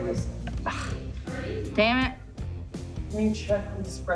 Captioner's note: scoffs